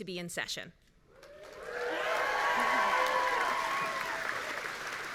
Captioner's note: audience cheering